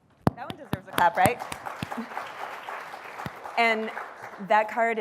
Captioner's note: applause